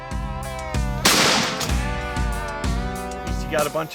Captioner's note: gunshot